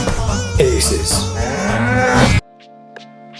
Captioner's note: cow mooing; cool music